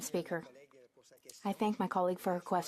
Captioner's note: speaking French